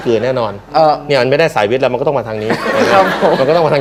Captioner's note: laughter